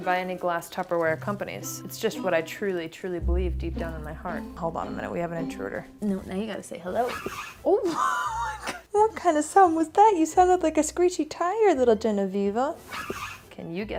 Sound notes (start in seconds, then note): 7.0 cat fussing; 7.8 laughs; 12.9 cat fussing